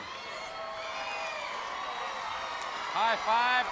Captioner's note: audience cheering